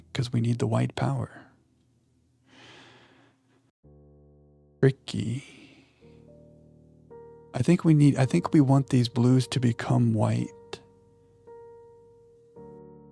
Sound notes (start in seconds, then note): 2.6 sighs